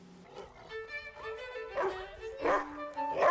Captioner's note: barking